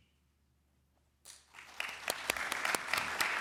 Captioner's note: applause